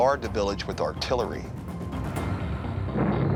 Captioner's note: explosion; crackling